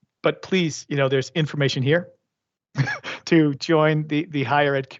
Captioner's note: laughs